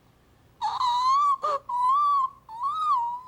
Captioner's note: squealing